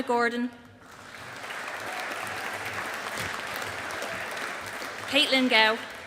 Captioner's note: audience applauding